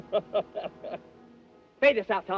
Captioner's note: laughing